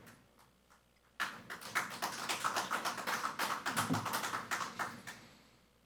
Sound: audience applauding

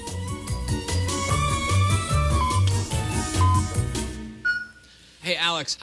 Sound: electronic beeping

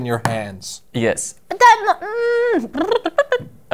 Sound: musical lip sounds

